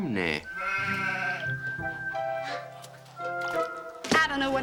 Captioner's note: sheep bleats